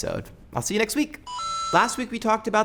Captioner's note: mario coin sound